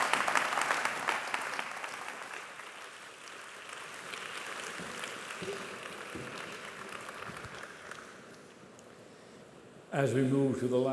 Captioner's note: applause